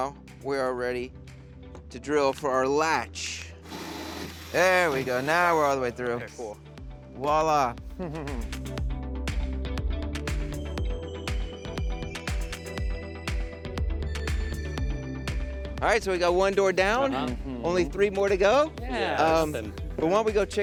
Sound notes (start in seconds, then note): 3.6 drilling machine screeching; 8.0 chuckles; 9.9 soft beat music